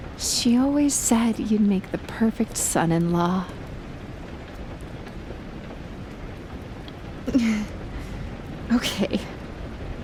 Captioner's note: another soft awkward laugh